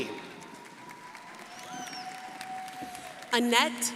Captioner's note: crowd applauding